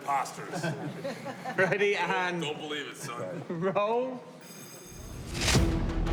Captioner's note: Wan chuckling